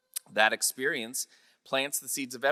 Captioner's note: none